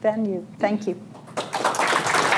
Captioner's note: applause